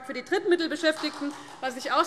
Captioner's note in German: Beifall